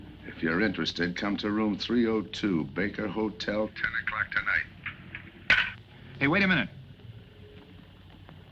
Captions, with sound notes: - If you're interested, come to room 302, Baker Hotel, 10 o'clock tonight. (phone disconnecting) - Hey, wait a minute!